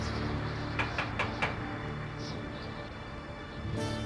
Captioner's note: loud knocking